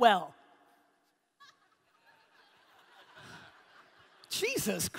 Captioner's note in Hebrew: הקהל צוחק